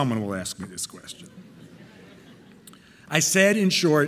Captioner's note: audience laughing